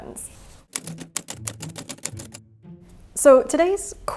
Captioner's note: letters clacking